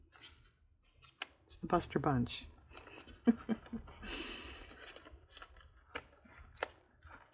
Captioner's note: laughs